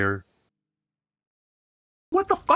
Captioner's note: silence